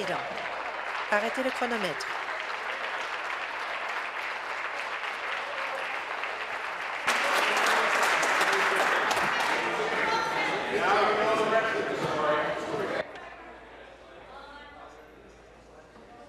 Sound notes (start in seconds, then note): 2.7 applause